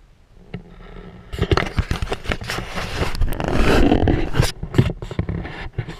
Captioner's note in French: GRINCEMENT DE PENTURE DE GoPro